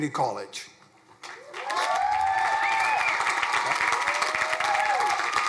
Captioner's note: crowd cheering